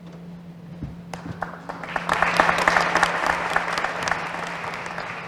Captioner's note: applause